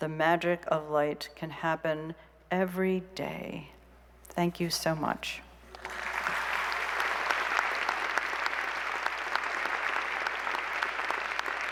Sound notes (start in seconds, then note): 5.7 applause